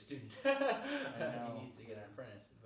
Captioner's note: laughing